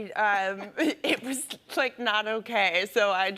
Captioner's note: chuckling